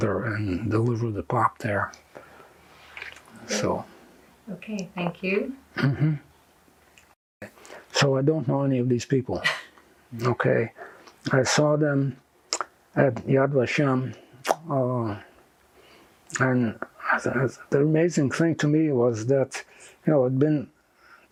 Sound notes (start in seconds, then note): 9.2 laughing